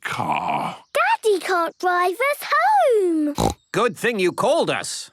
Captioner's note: snorts